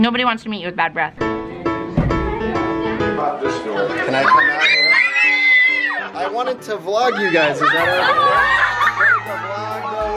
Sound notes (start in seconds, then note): 4.1 people screaming; 9.0 people cheering